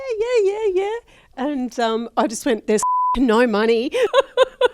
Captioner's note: beep